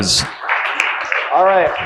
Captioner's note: audience applauding